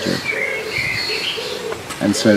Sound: birds chirping

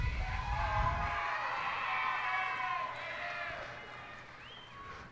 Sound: cheers and applause

